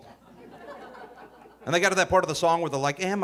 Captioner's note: audience laughing